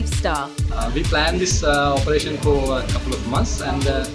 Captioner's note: voiceover